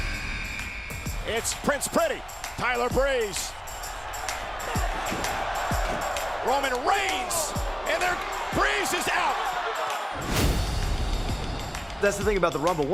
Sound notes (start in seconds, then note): 5.3 cheering; 10.1 dramatic music